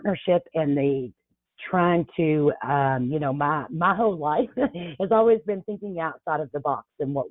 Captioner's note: chuckles